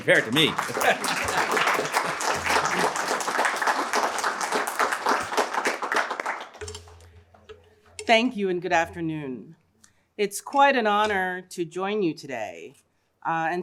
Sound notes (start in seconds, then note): 0.0 applause